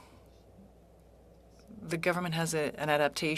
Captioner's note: speaking French